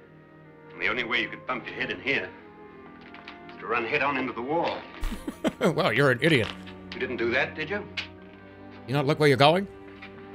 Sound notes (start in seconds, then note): 5.0 laughs